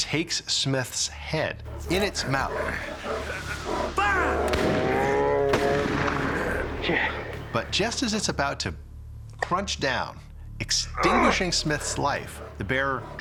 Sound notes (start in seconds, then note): 4.7 bear growling, gunshot; 5.4 gunshot